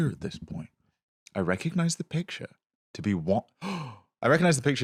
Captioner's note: gasps